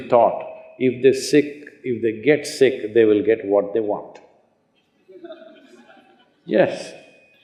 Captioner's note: laughter